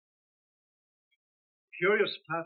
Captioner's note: none